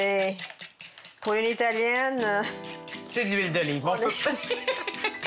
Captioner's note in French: rires